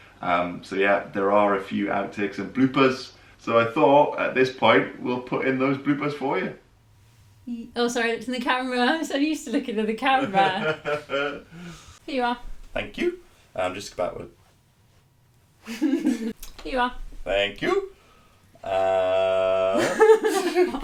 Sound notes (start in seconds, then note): 10.0 laughing; 15.6 laughing; 19.6 both laughing